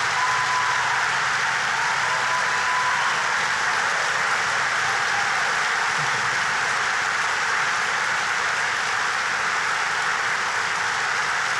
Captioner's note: applause